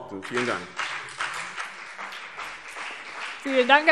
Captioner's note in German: Beifall BÜNDNIS 90/DIE GRÜNEN und vereinzelt CDU